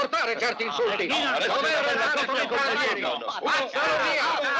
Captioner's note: chattering